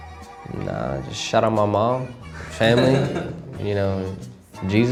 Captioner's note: producer laughs